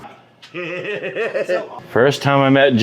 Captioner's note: laughs